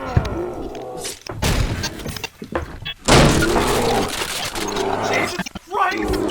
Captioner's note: tail thwaps, hits flesh, argh; wall breaks and a bear comes in roaring